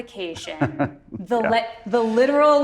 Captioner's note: chuckles